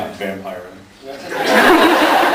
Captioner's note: laughs